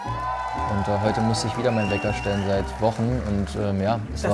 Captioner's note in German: Jubel